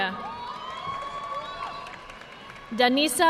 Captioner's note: audience cheering and applauding